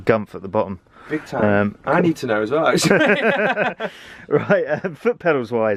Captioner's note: laughter